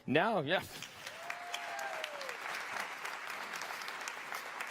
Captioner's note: audience applause